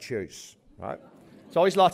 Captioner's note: laughter